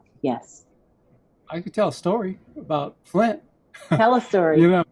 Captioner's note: laughs